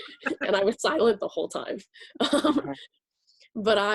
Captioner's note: laughs